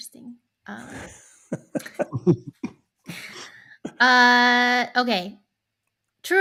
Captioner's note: laughing